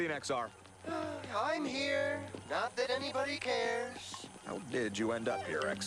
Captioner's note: sighs